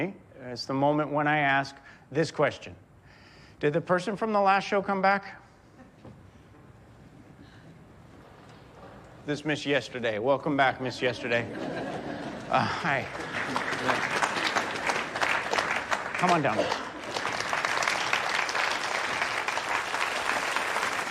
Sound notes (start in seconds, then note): 10.8 audience laughs; 17.5 audience applauding